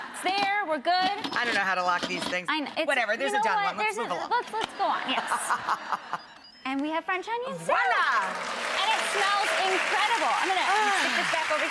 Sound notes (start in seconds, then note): 4.4 laughing; 7.7 audience clapping